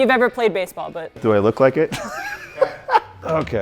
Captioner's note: laughs